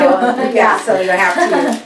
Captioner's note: laughs